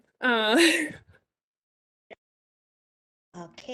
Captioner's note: laughs